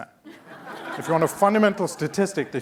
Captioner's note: laughing